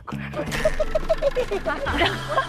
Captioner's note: the undercover is laughing madly